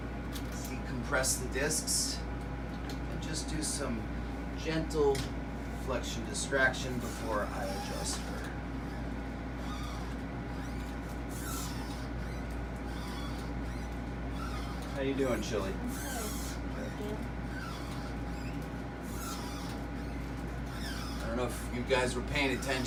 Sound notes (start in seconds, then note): 9.5 table squeaking